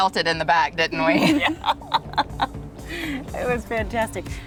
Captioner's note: laughs